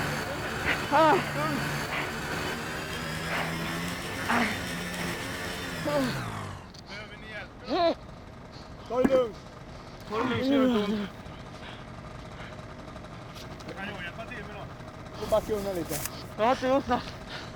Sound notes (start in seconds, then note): 0.0 man grunting; 2.2 engine running; 4.5 robber grunting